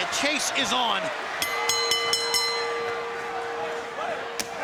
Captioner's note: bell dings